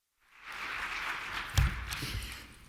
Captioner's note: applause